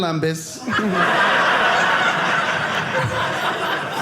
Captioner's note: audience laughing